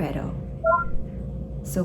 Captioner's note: robot blip